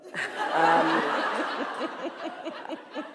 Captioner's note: laughter